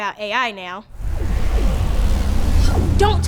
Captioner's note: electric buzzing